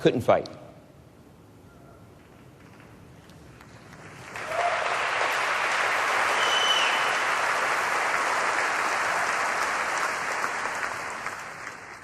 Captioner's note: applause